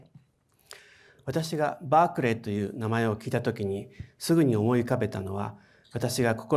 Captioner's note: speaking in foreign language